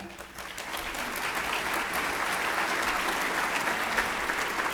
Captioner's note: applauding